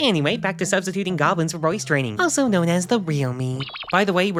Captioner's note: unpause sound effect